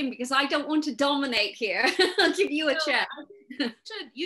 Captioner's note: laughing